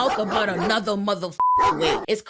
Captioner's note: beep